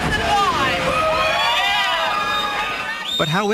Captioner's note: applause